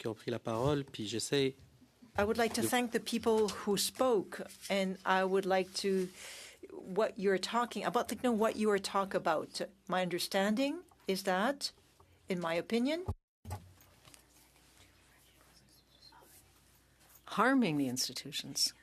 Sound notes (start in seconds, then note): 1.4 speaking French